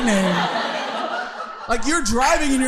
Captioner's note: audience laughing